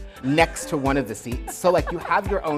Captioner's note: laughs